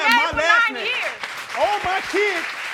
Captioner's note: crowd applauds